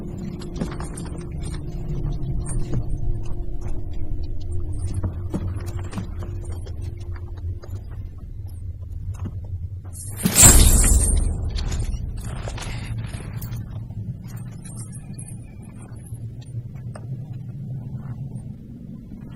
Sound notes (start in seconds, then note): 9.9 chain rattling